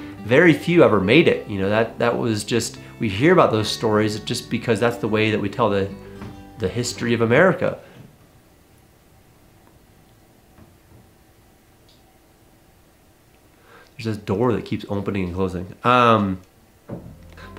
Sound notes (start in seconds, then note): 6.2 thudding on wood floor